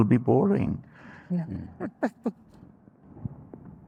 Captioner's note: laughs